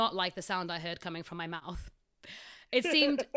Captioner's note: laughs in the background